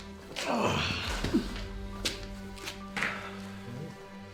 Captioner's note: Dan groaning